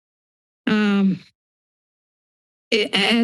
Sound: pause

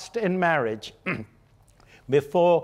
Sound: clearing throat

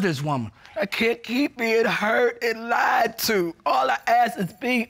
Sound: crying

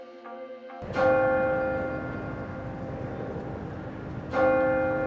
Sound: bell chiming

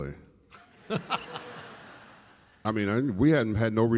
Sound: audience laughs

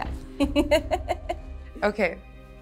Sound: laughs

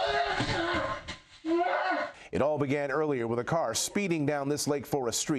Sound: screaming

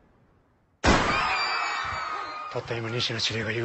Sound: gunshot, screaming

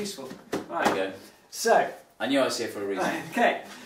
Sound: chuckles

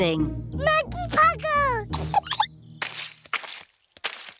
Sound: giggles

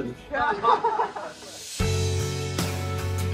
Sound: all laughing; lively music

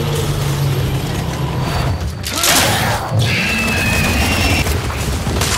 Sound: gunshots

